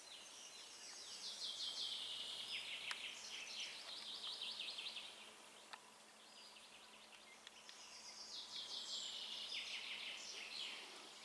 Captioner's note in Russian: пение птиц